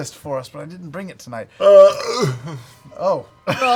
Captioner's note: burps